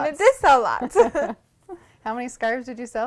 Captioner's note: laughter